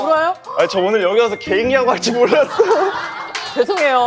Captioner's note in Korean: 울먹